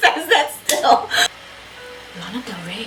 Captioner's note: laughs; both laugh